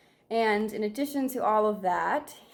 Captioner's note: none